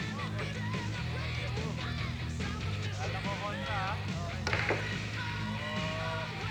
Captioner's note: people chattering